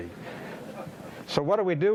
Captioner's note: audience laughing